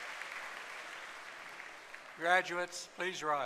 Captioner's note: applause